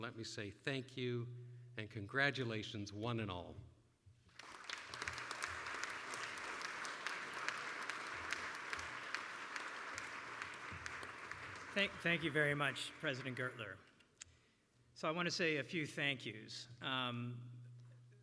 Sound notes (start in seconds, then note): 4.8 applause